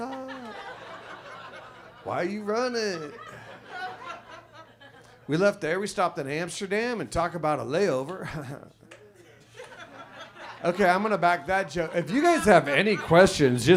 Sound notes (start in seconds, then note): 0.0 audience laughs; 8.2 chuckles; 8.9 audience laughs